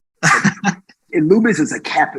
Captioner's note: guest laughing